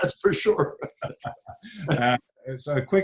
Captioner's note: laughs